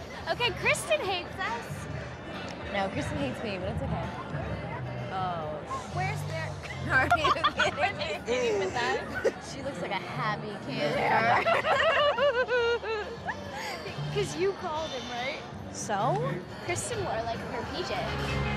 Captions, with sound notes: Okay, Kristin hates us. - No, Kristin hates me, but that's okay. Oh. - Where's there? - Are you kidding me? - Are they sitting with us? - She looks like a happy camper. (both laughing) - 'Cause you called it, right? - So? Kristin wore her PJs.